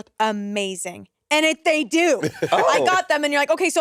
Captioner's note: Monét laughing